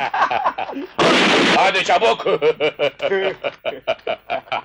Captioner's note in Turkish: Silah sesi